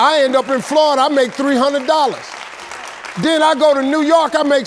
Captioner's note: audience clapping